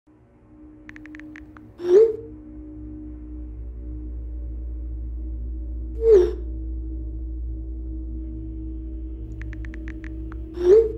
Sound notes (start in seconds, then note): 0.8 texting